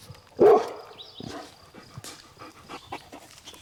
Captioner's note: dog barking